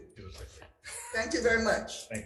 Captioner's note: laughs